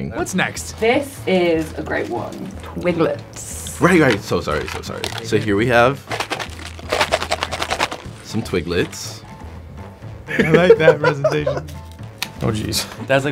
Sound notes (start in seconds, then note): 6.3 Twiglets rattling; 8.9 melodic upbeat music; 10.3 Jaboukie laughing